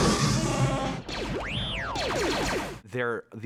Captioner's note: chewbacca groaning; warbling excitedly